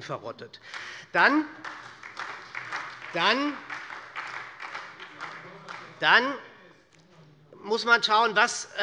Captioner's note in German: Beifall bei der SPD